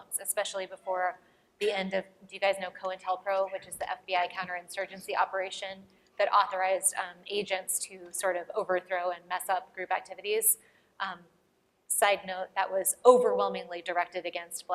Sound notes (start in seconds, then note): none